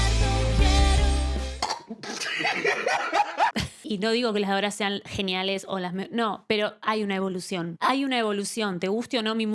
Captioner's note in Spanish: risas